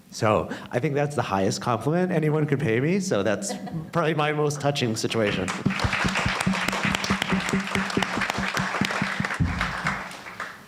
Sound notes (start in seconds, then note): 5.3 audience applauding